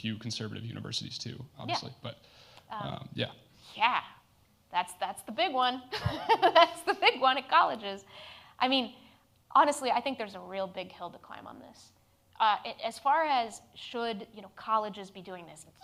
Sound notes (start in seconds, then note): 6.0 laughs